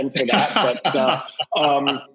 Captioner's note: laughs